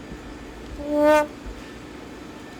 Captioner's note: sad trombone